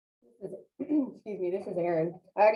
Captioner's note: clearing throat